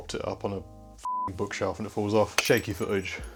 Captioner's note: beep